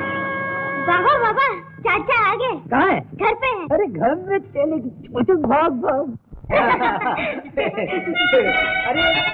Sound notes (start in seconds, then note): 0.0 mill siren blares; 6.5 laughs; 7.9 mouth organ playing